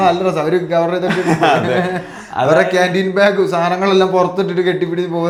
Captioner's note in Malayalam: പൊട്ടിച്ചിരി